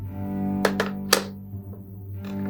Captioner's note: phone clicks down